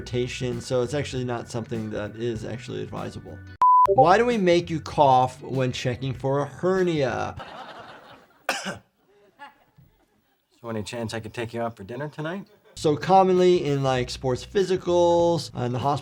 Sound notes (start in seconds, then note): 8.4 coughs